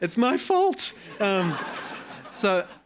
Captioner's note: attendees laughing